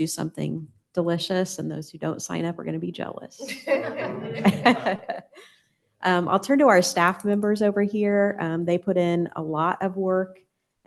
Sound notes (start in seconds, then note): 3.4 laughter